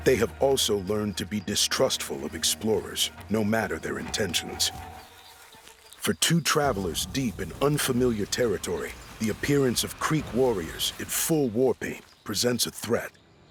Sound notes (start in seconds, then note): none